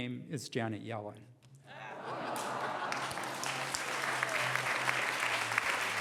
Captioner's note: applause